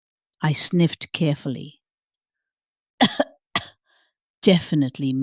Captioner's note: coughs